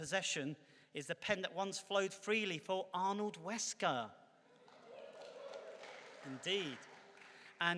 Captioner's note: clapping